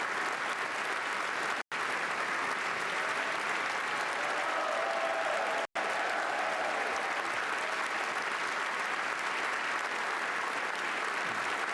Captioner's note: cheers and Applause